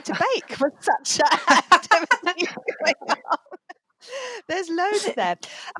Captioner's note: laughter